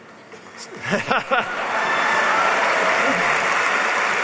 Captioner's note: applause